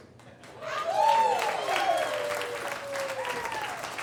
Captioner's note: crowd cheering